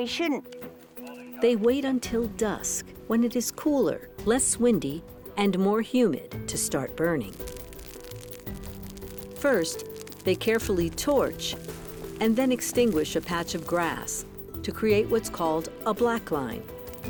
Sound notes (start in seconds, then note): 7.4 fire crackling